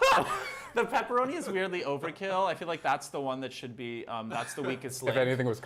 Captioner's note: laughter